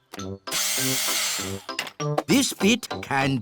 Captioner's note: whirring